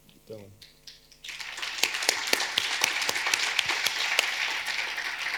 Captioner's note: audience applauding